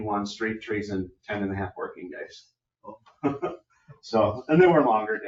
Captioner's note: laughs